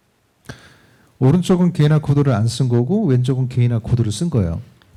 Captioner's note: speaking korean